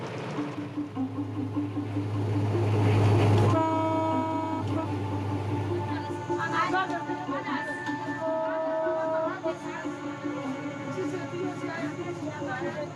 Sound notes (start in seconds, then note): 0.3 suspenseful music; 3.3 train hooting; 5.0 dramatic music